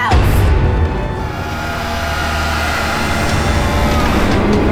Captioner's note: scary growl